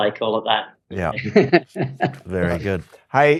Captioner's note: laughs